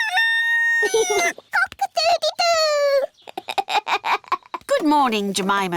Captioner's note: neville crows; laughs; giggles